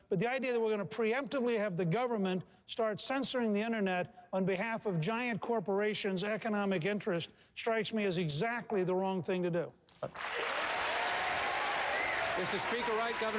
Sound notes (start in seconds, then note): 10.0 applause